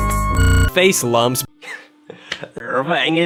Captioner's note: laughs Lightly